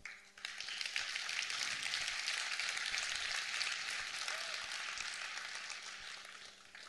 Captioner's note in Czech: potlesk